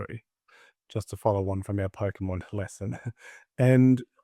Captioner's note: chuckles